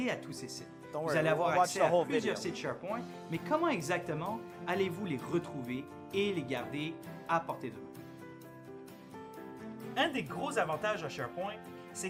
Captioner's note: speaking in french